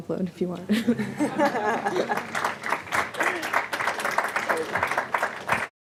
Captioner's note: audience laughs and applauds